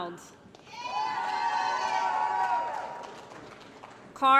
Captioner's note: applause & Cheering